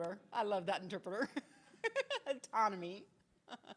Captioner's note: laughs